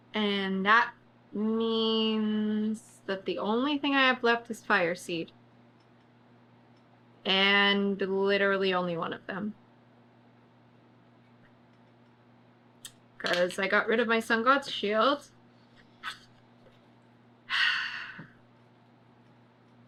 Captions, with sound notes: AND THAT MEANS THAT THE ONLY THING I HAVE LEFT IS FIRESEED AND LITERALLY ONLY ONE OF THEM CAUSE I GOT RID OF MY SUN GOD'S SHIELD [SIGHS]